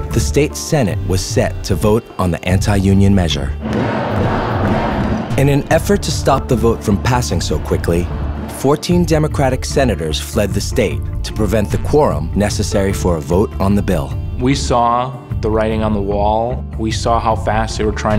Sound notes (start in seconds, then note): 3.6 chanting